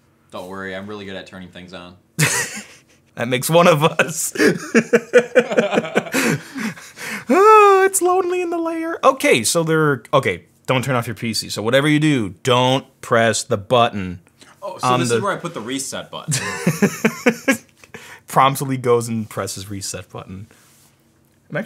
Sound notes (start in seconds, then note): 3.9 laughing; 3.9 laughs; 16.3 laughs